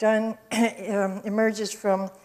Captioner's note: clears throat